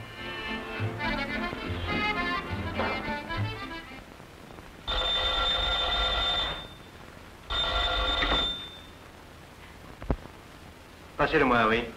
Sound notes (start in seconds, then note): 4.6 phone ring